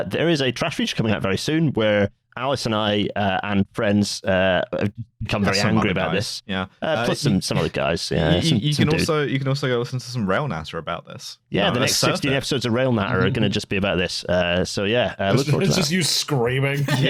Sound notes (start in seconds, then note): 14.4 chuckles